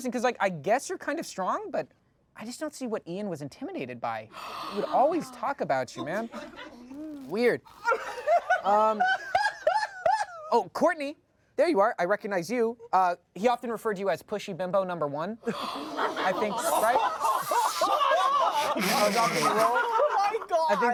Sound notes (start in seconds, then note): 7.6 laughs; 17.1 everyone laughs